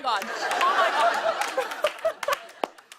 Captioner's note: laughs